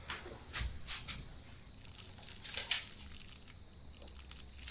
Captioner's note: footsteps crunching